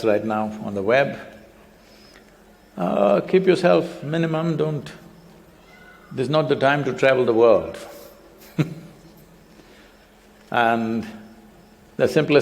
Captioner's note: laughs